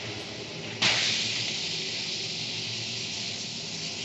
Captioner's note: rockets fire